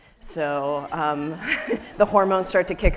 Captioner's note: people laughing